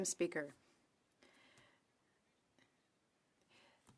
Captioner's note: speaking French